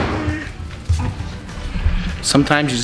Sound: babbles

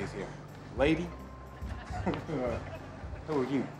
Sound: laughing

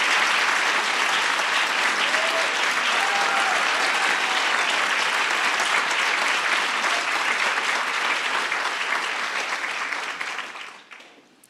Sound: applause

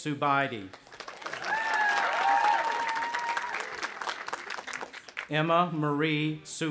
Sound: audience applauding and cheering

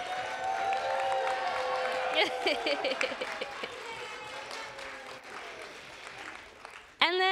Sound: applause

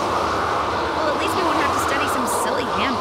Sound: wind howling

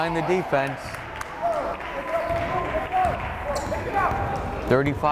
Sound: crowd applauding

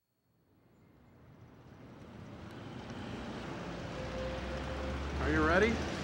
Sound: traffic rumbling

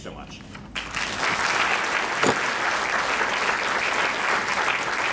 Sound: crowd clapping

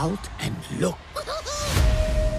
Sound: giggling

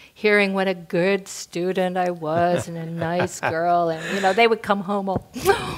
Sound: laugh

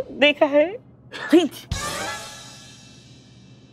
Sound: sneezes

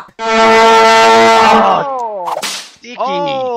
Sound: blowing vuvuzela

